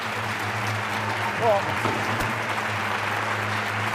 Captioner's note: applause